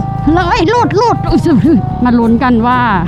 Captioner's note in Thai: ยอุทาน